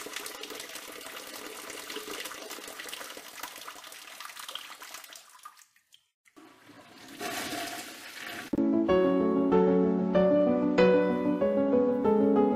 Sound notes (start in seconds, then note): 6.3 toilet flushing; 8.6 melancholy music